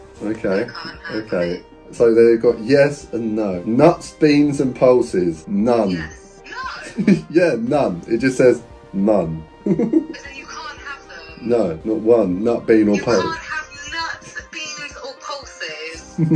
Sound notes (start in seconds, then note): 9.7 laughs